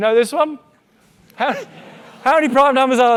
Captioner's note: audience laughing